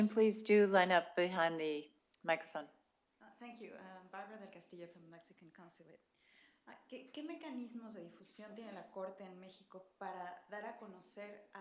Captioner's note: spanish